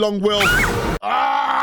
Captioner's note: Jumpscare, Cassie screams